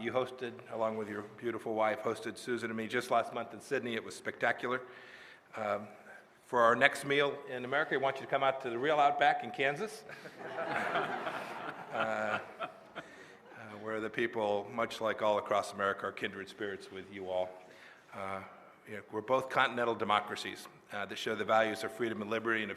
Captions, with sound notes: You hosted, along with your beautiful wife, hosted Susan and me just last month in Sydney. It was spectacular. For our next meal in America, we want you to come out to the real Outback in Kansas – (laughter) – where the people, much like all across America, are kindred spirits with you all. We’re both continental democracies that share the values of freedom and liberty and